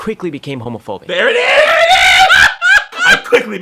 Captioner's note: laughs